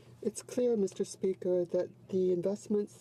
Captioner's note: speaking French